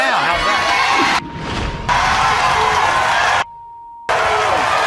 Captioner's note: audience cheering